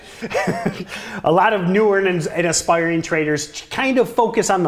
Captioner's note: laughs